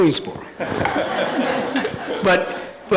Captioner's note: audience laughing